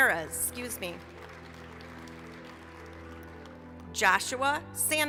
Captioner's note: applause